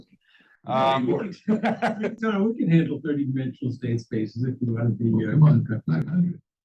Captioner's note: laugh